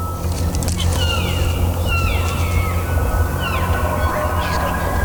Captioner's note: multiple elk bugling and cow calling